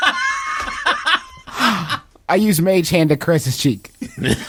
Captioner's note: laughing; gasp; everyone laughing